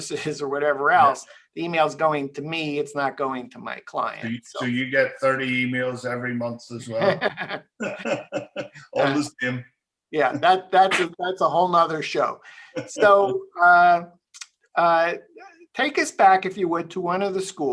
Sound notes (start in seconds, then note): 6.9 laughing